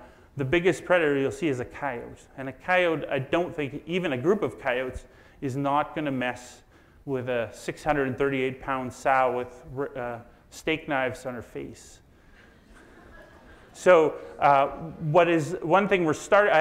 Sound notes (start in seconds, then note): 12.4 audience laughs